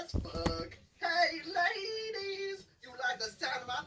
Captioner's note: autotuned voice